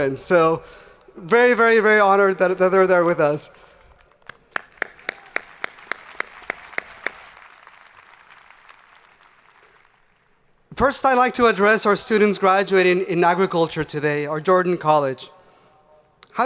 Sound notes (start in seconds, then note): 4.1 crowd applauding